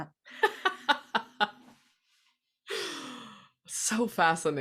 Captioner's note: laughing